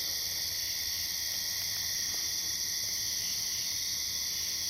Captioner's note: insects chirp